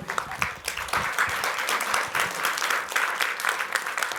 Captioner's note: applause